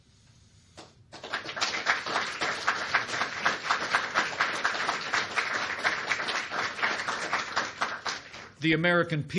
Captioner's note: applause